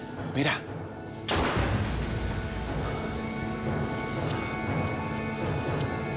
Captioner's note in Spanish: detonación de disparo